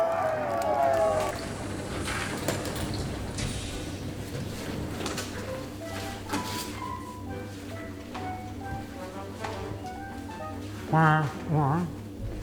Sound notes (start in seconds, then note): 1.3 pneumatic door opening; 5.6 fun music playing